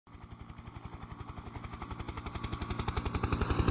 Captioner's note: helicopter in flight